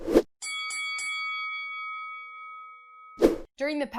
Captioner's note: bell ringing